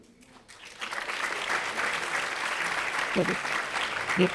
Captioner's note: audience applauding